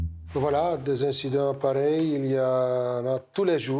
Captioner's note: French spoken audio